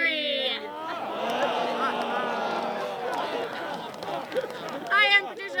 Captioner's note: laughter